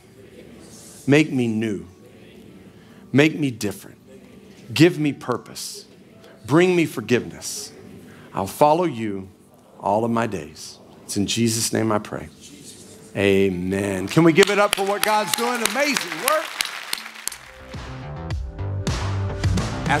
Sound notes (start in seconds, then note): 16.8 congregation clapping; 16.9 upbeat music